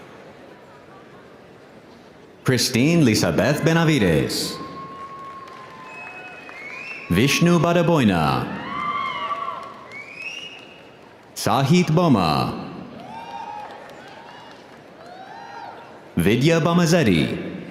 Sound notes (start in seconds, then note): 8.2 audience applauding; 8.7 audience cheering